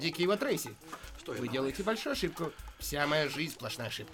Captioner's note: sighs